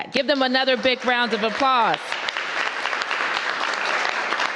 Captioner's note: applause